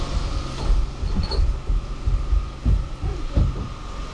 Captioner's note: door creaking